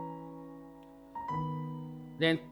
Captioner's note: none